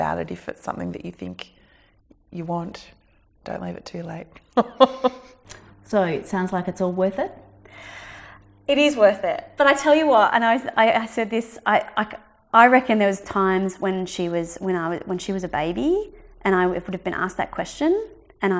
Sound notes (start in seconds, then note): 4.5 laughs